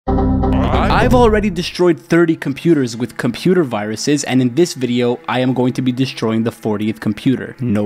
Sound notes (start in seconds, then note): 0.1 dramatic music; 0.2 computer warnings dinging